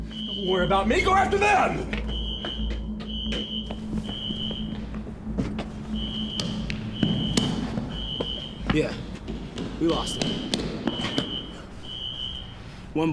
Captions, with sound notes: - Don't worry about me. Go after them! (alarm screeching) - Yeah, we lost him. (footsteps thudding) (alarm screeching)